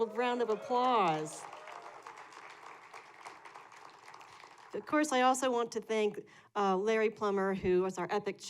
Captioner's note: applause